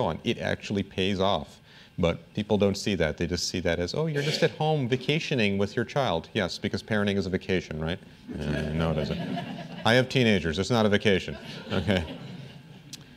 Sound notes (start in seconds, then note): 8.3 laughter; 12.3 laughter